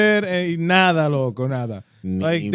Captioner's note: speaking In Foreign Language